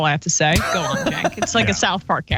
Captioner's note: laugh